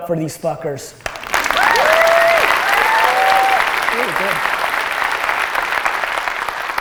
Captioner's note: audience applause and cheers